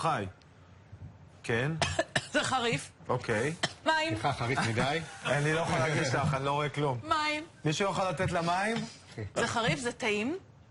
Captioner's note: משתעלת